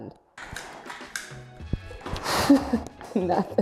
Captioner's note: machine clacks